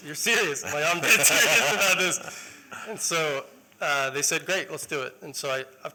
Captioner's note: laughter